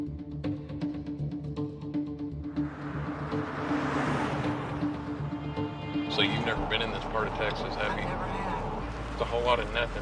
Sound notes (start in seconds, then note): 0.0 tense music; 2.5 car whirrs